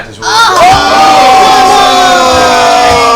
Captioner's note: all groan